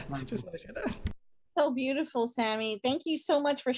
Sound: laughs

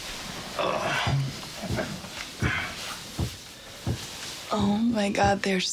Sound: rhythmic thumping

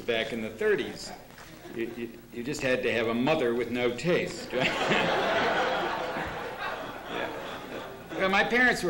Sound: laughter

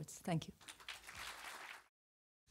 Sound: audience applause

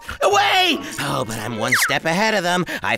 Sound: clatter

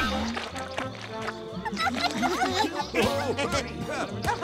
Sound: laughing

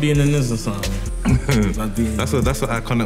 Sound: chuckling

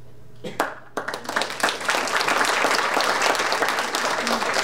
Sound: audience applauding

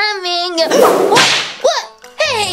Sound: everyone whooshing and slashing

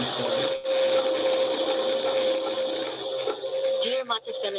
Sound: static crackling

